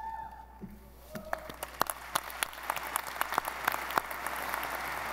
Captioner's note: audience applauding